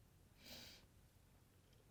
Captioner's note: Rose sniffles